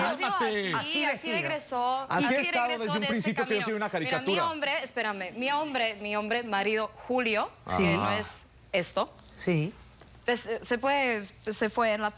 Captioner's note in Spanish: Comentarios al unísono